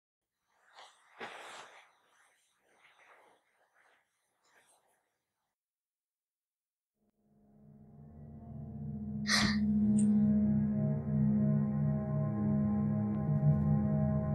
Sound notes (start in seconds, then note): 9.2 gasps; 11.0 ominous music